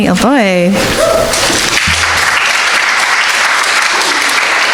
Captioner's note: audience clapping